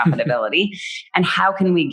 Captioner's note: laughs